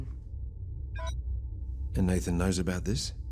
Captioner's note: beeping